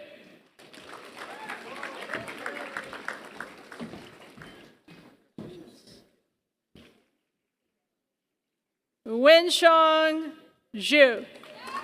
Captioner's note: applause; applause